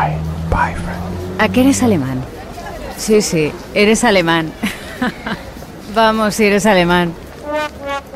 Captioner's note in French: femme parlant espagnol